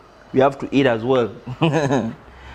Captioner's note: laughs